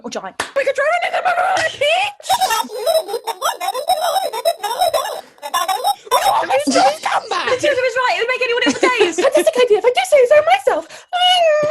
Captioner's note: Sketch audio plays, we laugh